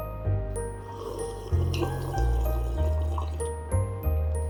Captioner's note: slurps